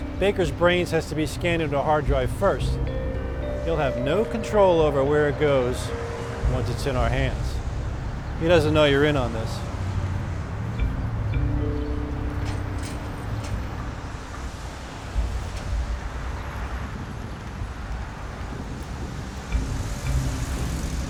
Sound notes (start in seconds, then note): 11.1 birds chirping; 11.1 soft intriguing music